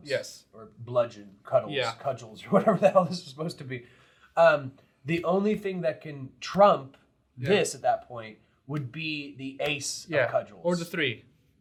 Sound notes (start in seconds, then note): 3.2 chuckling